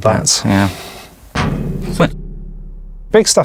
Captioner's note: bang sound effect